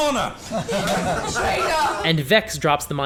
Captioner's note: laughter